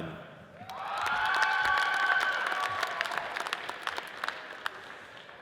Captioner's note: audience cheers and applauds